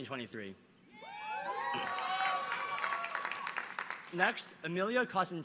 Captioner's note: audience cheering